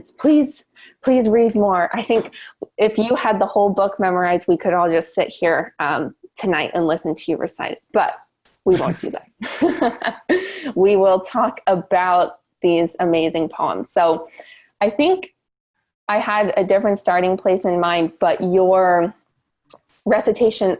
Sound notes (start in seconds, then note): 8.7 laughs